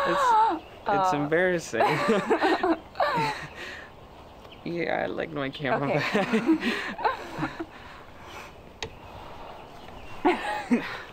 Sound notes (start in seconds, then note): 1.8 both laughing; 5.8 laughing